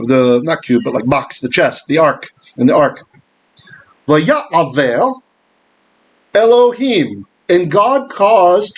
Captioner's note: Hebrew